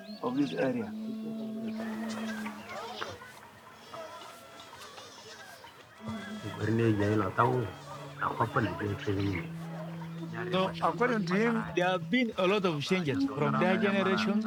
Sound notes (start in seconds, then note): 1.7 village sounds; 7.0 speaking in local language